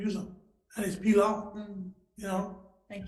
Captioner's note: speaking in foreign language